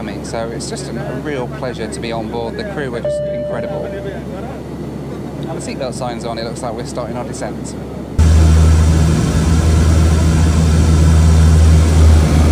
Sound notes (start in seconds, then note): 7.8 engine roaring